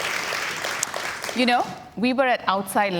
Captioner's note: cheers and Applause